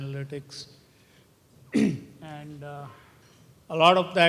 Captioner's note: cough